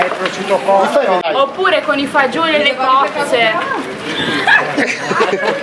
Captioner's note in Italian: risate